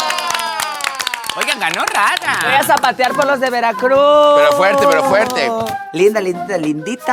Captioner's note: in a yucatecan accent